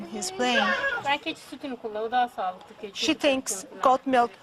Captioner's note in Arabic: تتحدث بلغة أجنبية